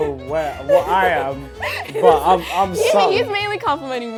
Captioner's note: laughing